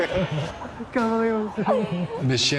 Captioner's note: laughs